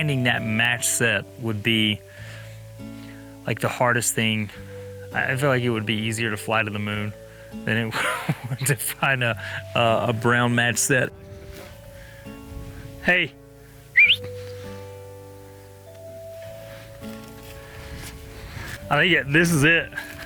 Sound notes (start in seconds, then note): 13.9 whistles